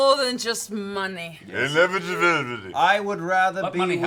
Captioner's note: slurred